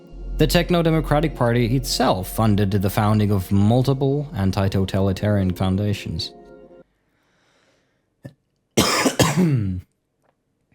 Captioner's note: cough